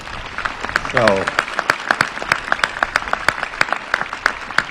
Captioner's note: applause